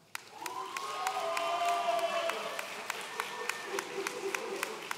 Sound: audience cheering

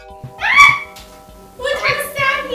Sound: screaming

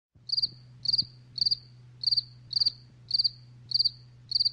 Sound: crickets chirping

